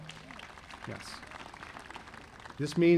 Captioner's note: audience applauding